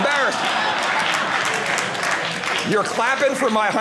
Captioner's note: audience applauding